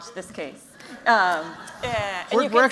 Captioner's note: laughter